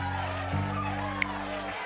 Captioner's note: cheers and applause